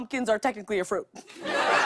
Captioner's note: laughter